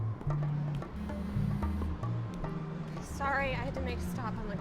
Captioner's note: cellphone buzzing